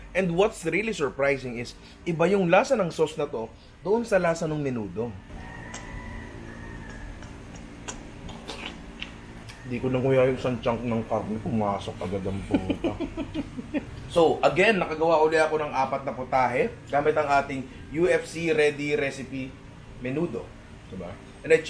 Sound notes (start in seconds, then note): 12.1 laughs